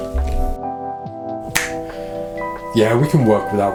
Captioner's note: snaps